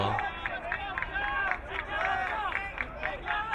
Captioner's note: crowd cheering